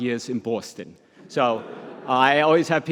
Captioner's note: audience laughs